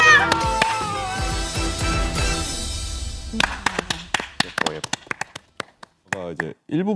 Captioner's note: automatic applause to see the ending